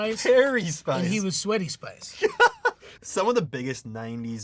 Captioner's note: laughing